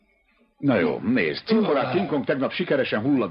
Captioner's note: belches